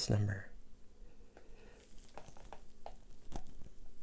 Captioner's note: pouring sounds